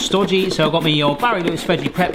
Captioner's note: potato thudding